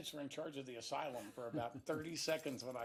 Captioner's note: laughs